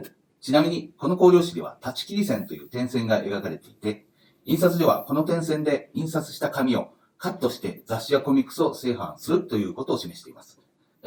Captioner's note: speaking Japanese